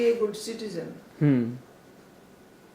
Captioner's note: hmm